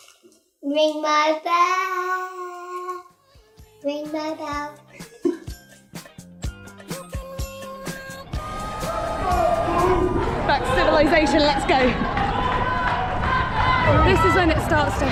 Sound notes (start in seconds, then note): 4.9 laughter